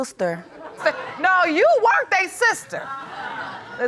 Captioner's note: audience laughs